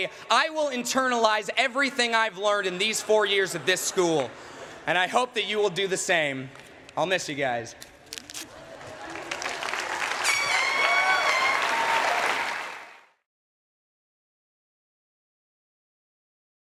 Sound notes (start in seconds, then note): 8.5 cheering